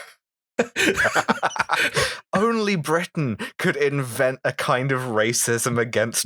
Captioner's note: laughter